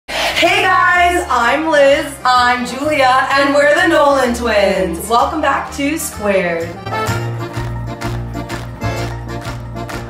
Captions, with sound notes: - [In Unison] Hey guys. - I'm Liz. - I'm Julia. - [In Unison] And we're the Nolan twins. - Welcome back to Squared. (polka music)